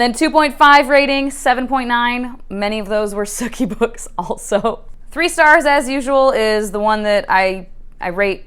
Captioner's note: laughing